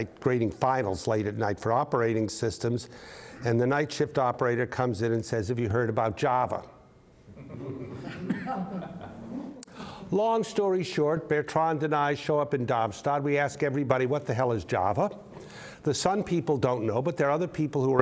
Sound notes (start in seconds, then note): 7.3 crowd laughing